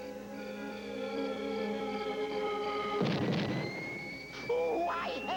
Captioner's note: explosion